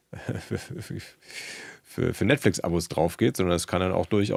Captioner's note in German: gelächter